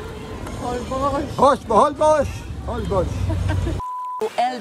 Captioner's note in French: rire